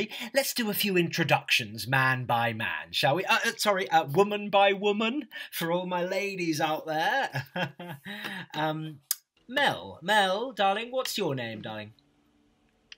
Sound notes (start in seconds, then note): 7.2 laughs awkwardly